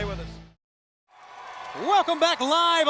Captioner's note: audience cheers